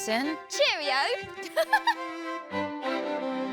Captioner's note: laughs